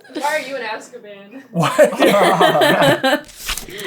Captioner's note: laughter